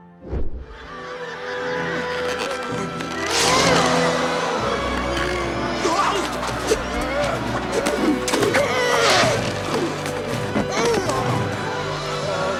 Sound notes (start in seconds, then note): 0.9 crowd laughing; 8.3 Quasimodo grunts